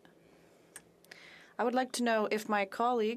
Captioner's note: speaking FRENCH